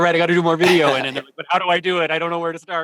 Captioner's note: laughs